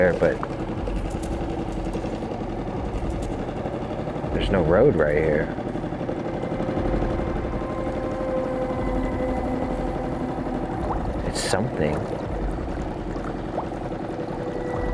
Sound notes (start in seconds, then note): 5.9 engine droning; 5.9 ominous music continues